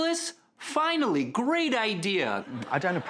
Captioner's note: audience laughing